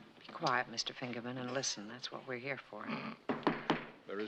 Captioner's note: scoffs